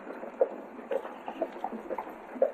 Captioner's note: horse trotting